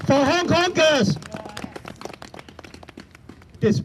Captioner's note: applause